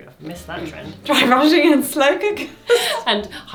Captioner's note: laughs